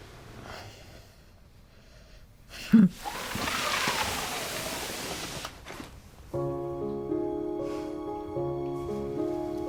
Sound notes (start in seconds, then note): 3.0 sliding basket